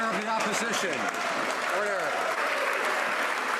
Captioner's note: some Applause